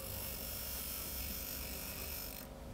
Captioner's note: whirring